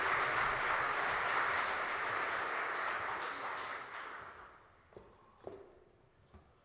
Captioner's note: applause